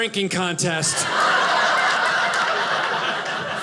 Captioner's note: audience laughing